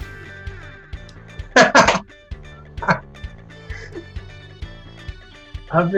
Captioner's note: laughing